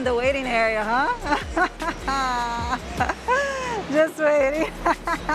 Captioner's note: laughs